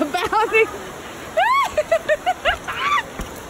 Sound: screaming and laughing

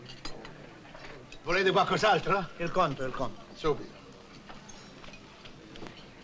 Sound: speaking italian

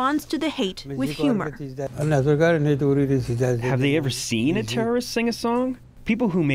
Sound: through translator

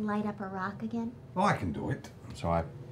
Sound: none

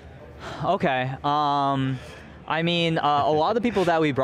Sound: laughs

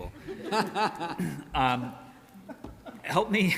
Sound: all laughing

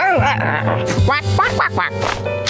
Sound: quacking

